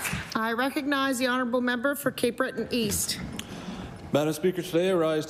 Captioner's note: applause